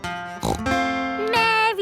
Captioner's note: playing guitar; snorts